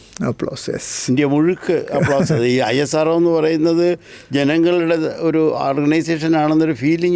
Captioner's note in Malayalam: പൊട്ടിച്ചിരി